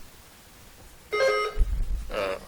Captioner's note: buzzer dings